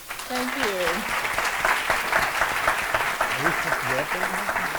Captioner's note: applause